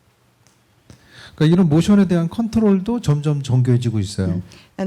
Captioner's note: speaking korean